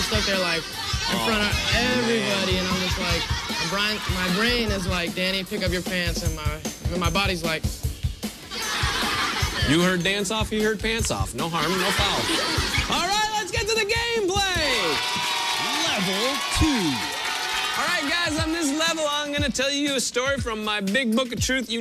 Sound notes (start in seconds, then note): 8.6 laughter; 14.2 cheers and applause